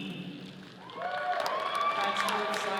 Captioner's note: all cheering